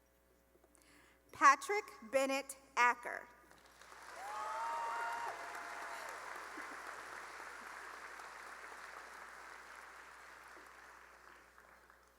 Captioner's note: cheering and applause